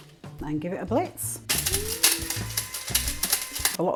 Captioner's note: coffee grinder whirring